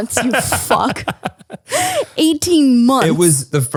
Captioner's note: laughing